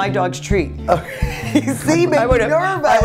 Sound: laughs

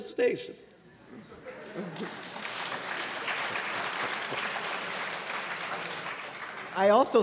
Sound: applause

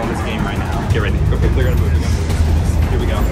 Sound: murmurs

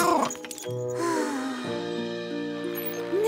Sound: sighs

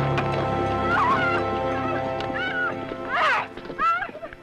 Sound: screaming

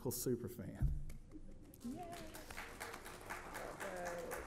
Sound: audience applauds

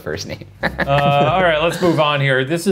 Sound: laughing

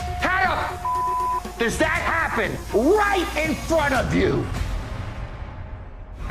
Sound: beep

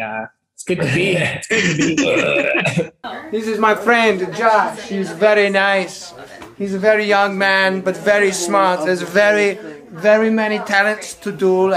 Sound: laughs

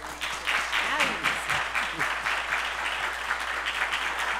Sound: applause

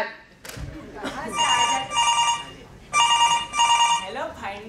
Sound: phone Rings

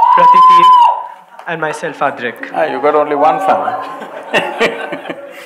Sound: laughs

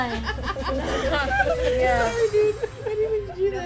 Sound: laughter

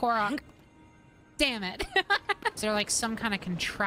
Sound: laughter

